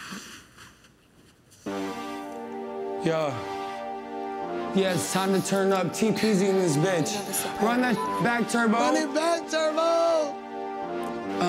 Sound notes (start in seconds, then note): 1.6 mid-tempo music; 7.9 beep